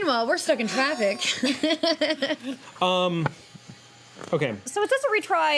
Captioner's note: laughing